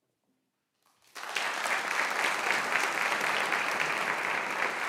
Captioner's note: audience applauding